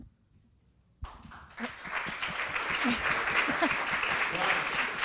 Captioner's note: audience applause